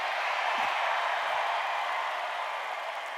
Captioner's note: cheers